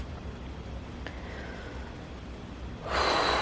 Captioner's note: deep breath; big exhale